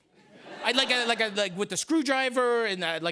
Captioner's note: laughter